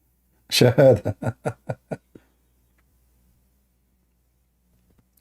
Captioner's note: Ketawa